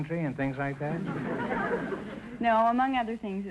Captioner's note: audience chuckling